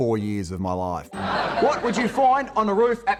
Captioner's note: audience laughing